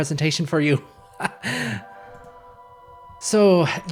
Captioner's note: nervous chuckle